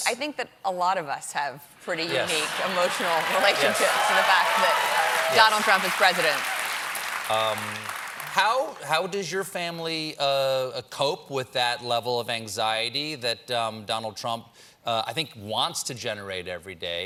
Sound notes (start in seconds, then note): 8.0 cheers and applause